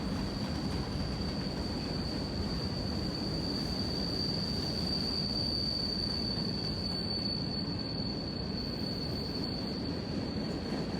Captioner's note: train sounds